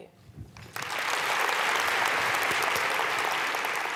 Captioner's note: applause